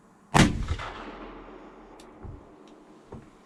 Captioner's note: gunshot